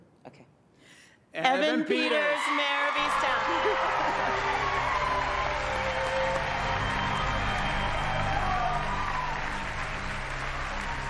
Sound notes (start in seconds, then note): 3.5 cheering